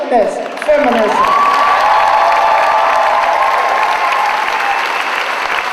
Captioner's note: audience applauding